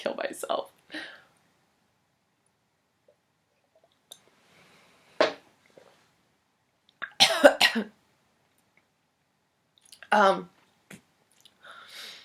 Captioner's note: coughs